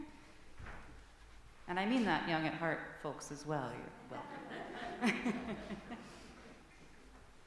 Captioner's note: laughter